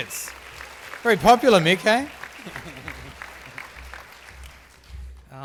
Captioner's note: applause